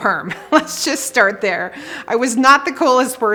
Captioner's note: chuckles